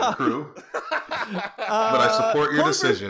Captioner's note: laughter